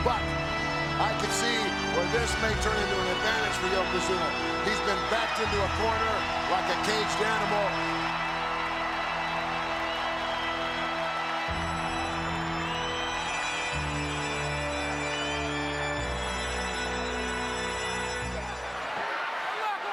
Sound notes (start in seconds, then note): 9.2 crowd cheers; 12.7 solemn funereal music continues